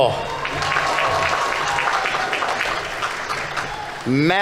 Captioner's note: audience applauding; audience members cheering